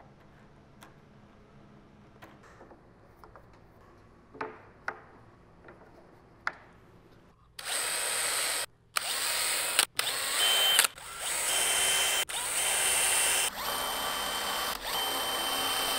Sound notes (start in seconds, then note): 4.4 clicks; 8.9 short, repeating whir of a screwdriver